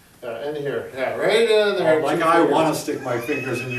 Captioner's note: laughs